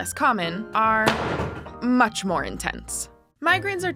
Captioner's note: banging